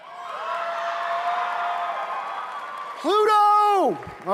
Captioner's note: applause